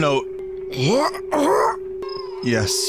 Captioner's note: groans